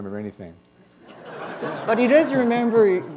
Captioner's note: laughter